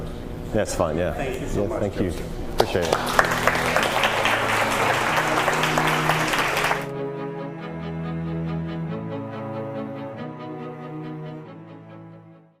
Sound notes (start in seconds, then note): 2.6 applause; 6.8 violin music